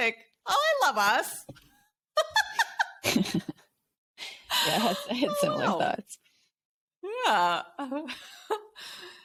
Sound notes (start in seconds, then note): 2.2 laughing; 7.3 giggles